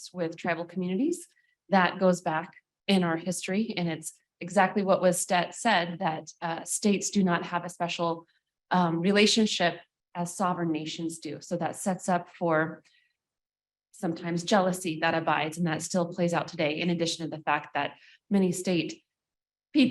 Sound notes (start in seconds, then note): none